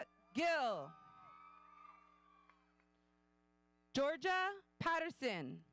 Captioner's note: audience cheering